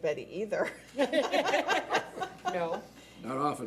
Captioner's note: laughing